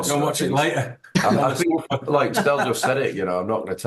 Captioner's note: laughing